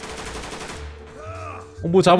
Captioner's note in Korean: 비명소리